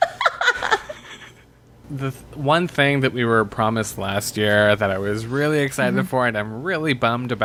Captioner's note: laughs